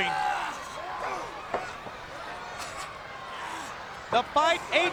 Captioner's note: crowd yelling